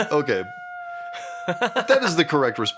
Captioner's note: screams in the pillow